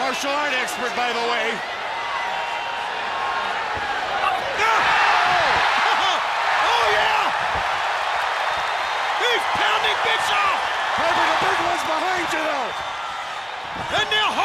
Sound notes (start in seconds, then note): 7.9 audience cheers